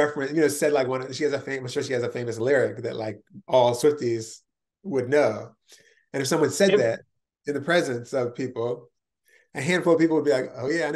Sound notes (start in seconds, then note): none